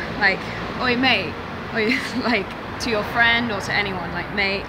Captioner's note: chuckling